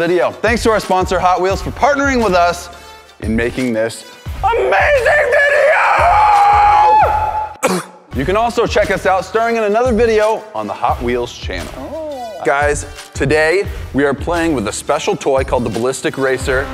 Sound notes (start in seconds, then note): 6.3 howls like a baby wolf; 7.5 cough